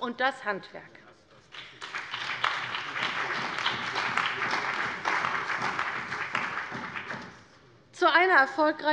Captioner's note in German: Beifall bei der CDU und dem BÜNDNIS 90/DIE GRÜNEN